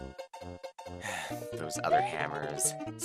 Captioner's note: sigh